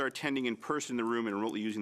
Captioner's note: speaking French